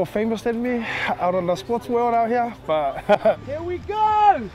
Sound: laughs

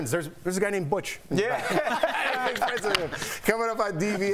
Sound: laughter

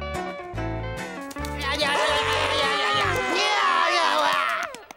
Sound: babbling, screaming

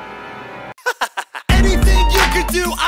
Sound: ominous music; chuckling

